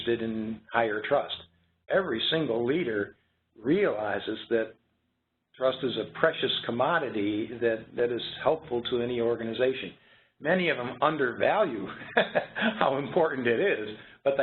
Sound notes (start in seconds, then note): 11.9 laugh